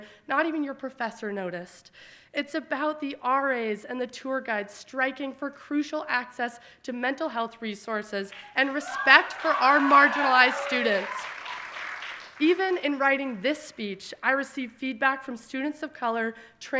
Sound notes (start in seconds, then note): 10.8 audience applauding